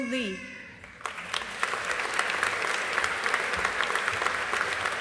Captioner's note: audience applauding